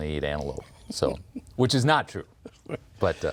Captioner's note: laughs